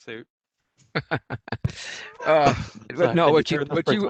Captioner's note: laughing